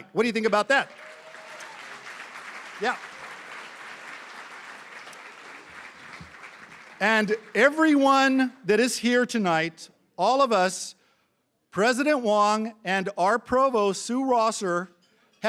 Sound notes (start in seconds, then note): 2.1 cheering & Applause; 6.0 applause